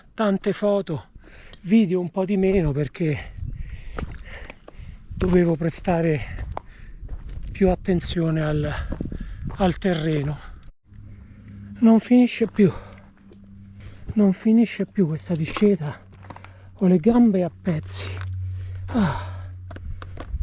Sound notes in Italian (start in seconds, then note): 18.8 sospiro